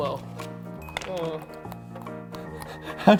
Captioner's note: nom nom nom